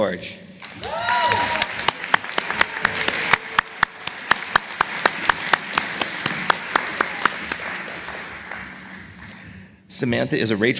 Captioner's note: applause